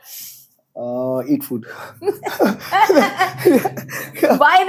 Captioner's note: laughs